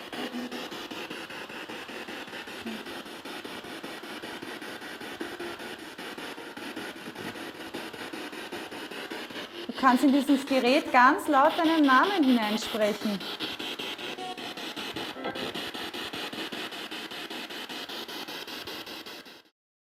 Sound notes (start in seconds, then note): 3.7 noise of the spiritbox in the background; 13.9 noise of the spiritbox in the background